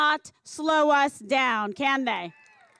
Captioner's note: cheers and applause